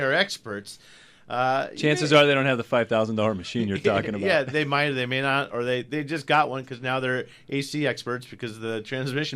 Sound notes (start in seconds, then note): 0.0 laughs; 3.4 group laughs